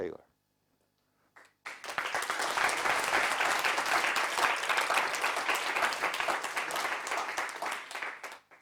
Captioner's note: applause